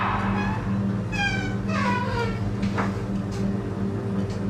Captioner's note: door creaks; ominous music